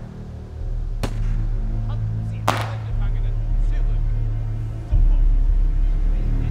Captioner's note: Von Rohr speaks in foreign language